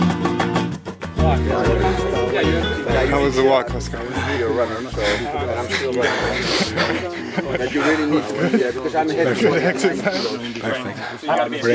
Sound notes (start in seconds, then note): 3.8 heavy Breathing